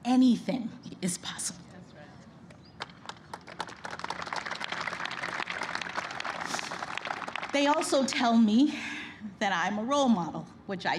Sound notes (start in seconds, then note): 2.8 applause